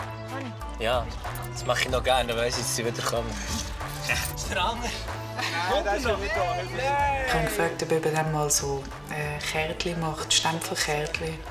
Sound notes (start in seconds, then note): 4.0 laughs